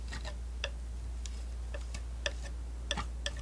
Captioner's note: tapping